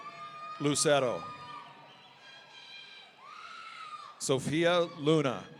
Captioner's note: audience cheering